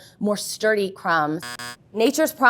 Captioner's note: buzzer sounds